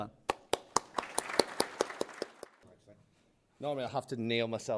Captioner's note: applause